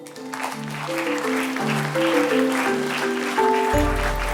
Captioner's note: applause